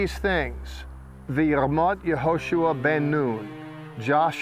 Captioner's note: speaking in Hebrew